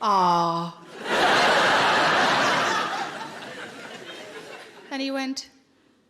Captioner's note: audience laughing